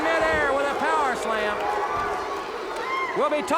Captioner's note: audience barks